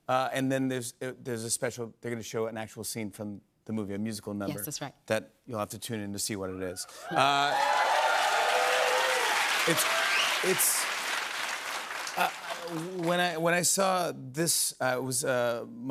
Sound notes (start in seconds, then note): 6.8 cheers and applause